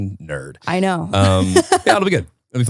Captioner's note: laughing